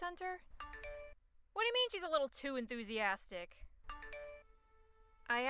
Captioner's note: text alert